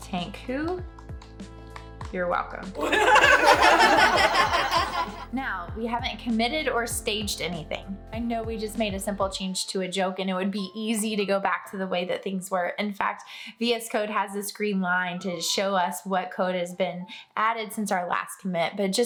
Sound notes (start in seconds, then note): 2.8 laughter